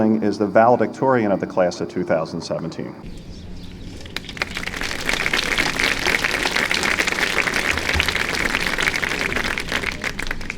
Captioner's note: applause